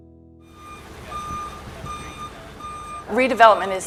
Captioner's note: forklift beeping